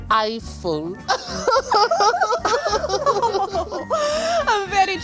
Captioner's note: all giggle